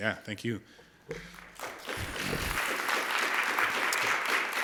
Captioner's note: applause